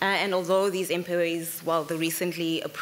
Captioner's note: none